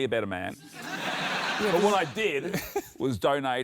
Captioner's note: laughter